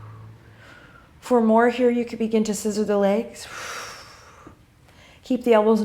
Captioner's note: exhale; exhale